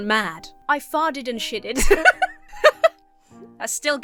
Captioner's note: laughs